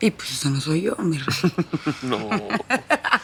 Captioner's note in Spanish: Risas